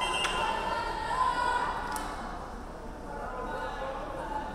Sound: referee whistling

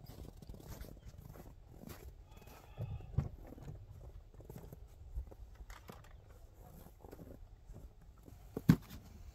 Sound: wind howling

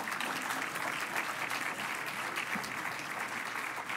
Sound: applause

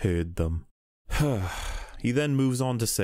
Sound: sigh

